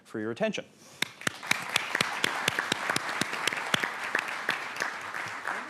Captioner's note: audience clapping